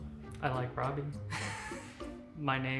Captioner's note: laughs